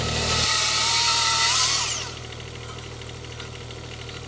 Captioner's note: drill buzzing